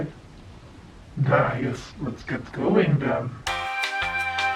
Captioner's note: demonic voice; disgustedly in demonic voide